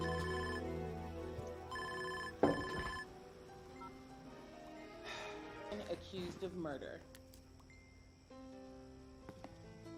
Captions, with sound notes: [phone beeps, he sighs] Stavros, my man.